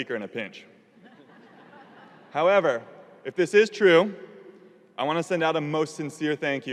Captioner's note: audience laughing